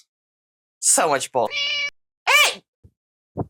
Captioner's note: meow